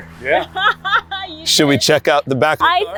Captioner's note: laughs